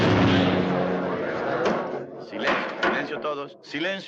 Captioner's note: people chattering; gavel bangs